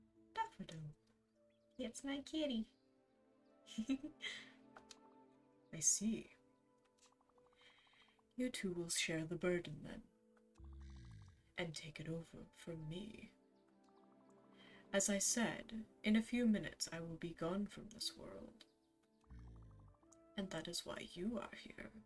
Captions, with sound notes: "Daffodil." *normal voice* It's my kitty! *giggles* *Charon voice* "I see. You two will share the burden then, and take it over from me. "As I said, in a few minutes I will be gone from this world. And that is why you are here.